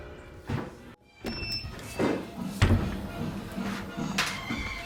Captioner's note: machine beeping